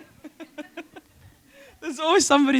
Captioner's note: chuckle